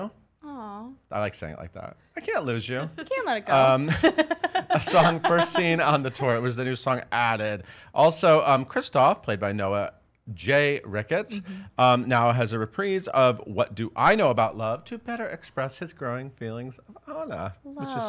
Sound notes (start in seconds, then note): 2.4 laughs